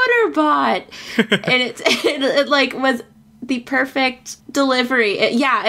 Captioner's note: laughs